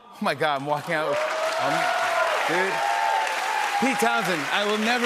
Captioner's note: cheers and applause